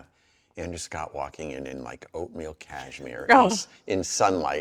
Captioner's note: chuckles